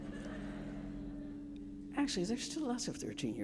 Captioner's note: audience laughing